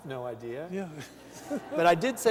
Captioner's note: laughter